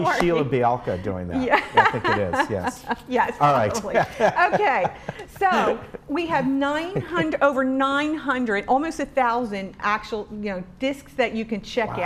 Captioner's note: laughing